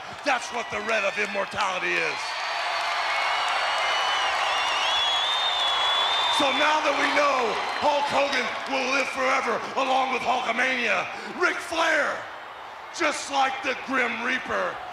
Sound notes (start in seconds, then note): 2.7 crowd cheering